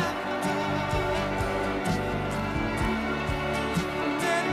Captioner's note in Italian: Applauso